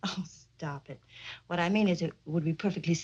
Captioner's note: chuckles